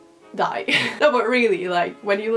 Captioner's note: wheeze